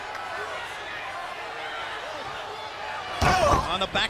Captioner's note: crowd chatter